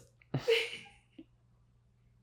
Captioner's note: off screen person laughs